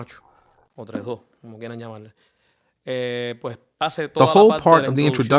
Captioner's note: speaking in foreign language